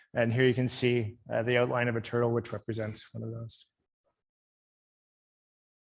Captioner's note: none